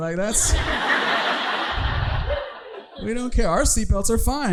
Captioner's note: audience laughing